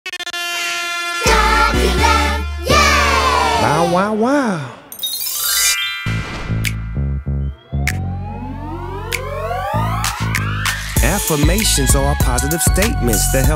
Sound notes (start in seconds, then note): 0.1 horn blowing; 6.5 hip hop music